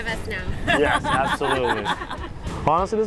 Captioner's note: chuckling